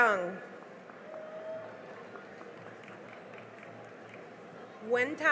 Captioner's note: cheering and applause